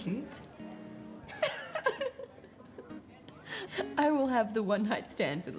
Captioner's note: women giggle